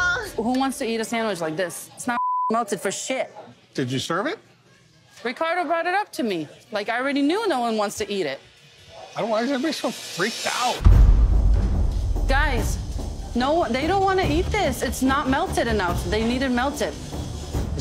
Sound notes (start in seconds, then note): 2.2 beep